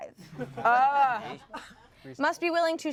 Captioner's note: everyone laughs